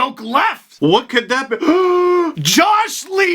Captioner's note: gasp